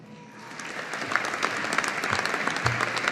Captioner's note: audience applauding